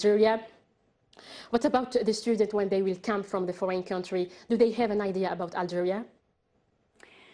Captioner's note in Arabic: تتحدث الإنجليزية